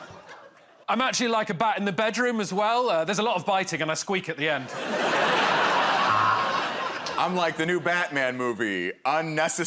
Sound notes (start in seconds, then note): 4.6 laughter